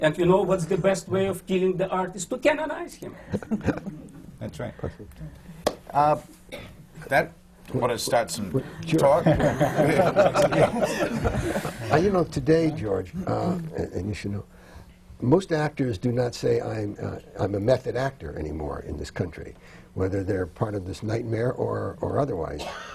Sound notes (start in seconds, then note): 5.0 laughter; 9.2 laughter